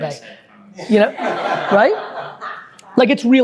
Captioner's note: group laughing